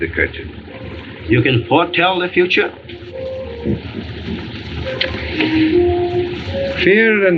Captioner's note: chuckles